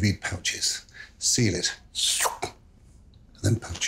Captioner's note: Marco imitating sucking sound